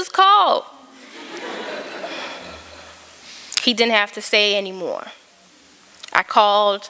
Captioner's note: laughter